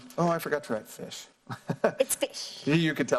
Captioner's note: laugh